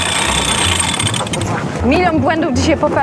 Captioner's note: pipe sound